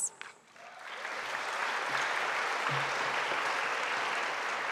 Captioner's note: audience applauding